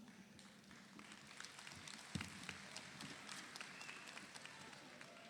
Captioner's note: audience applauds